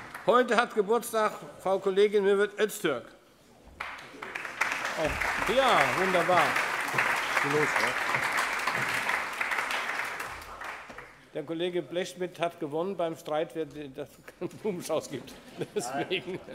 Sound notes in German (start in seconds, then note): 0.0 Allgemeiner Beifall; 6.3 Allgemeiner Beifall